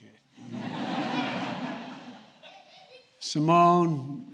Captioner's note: laughter